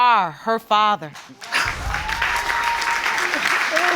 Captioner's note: applause and cheering